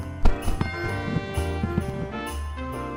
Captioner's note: jazzy instrumental music; doorbell rings; jazzy instrumental music